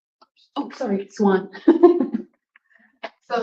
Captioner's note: laughs